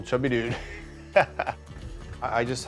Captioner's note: laughter